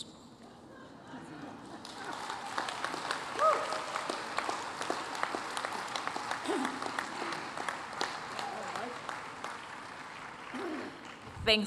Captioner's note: applause